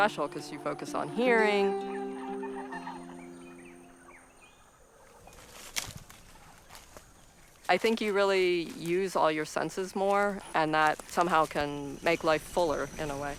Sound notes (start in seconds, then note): 2.0 birds chirping; 5.1 rustling